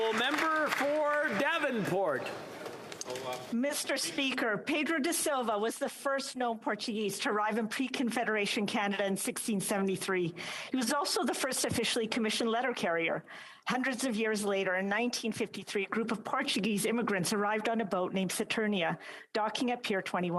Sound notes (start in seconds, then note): 2.3 applause